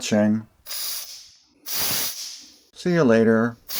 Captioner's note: air spraying sound